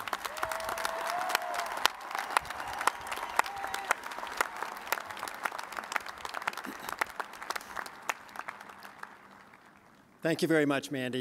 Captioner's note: cheers and applause